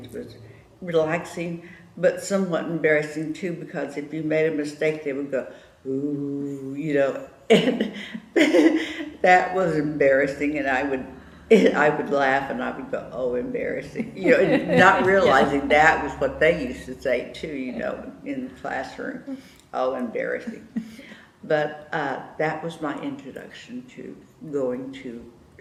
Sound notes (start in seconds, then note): 9.7 laughs